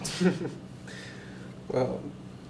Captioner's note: giggles